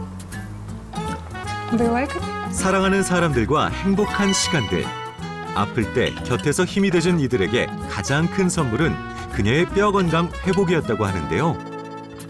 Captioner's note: voiceover